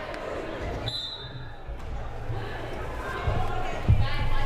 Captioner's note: whistle blaring